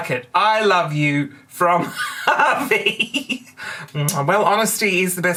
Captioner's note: laughter